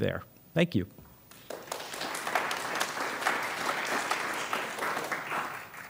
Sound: applause

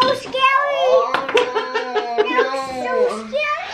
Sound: laughs

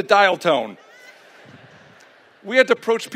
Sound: laughter

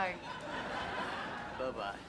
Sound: audience laughing

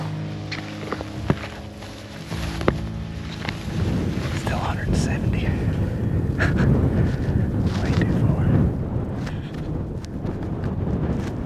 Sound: whispering

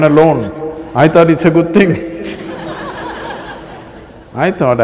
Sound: laughter

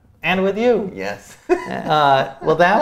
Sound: laughs

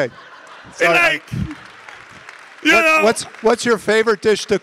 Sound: audience laughing and applauding

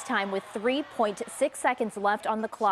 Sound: cheering

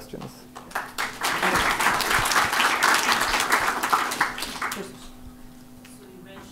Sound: applause

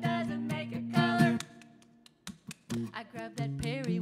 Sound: rhythmic clapping

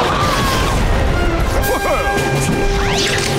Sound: chuckling

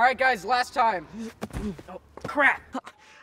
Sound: moaning

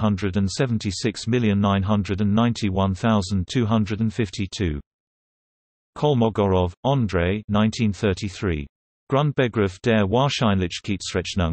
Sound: in German

